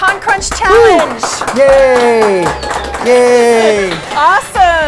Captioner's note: clapping high fives